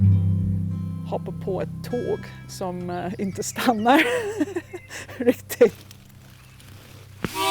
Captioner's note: laughs